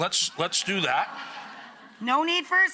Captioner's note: audience laughs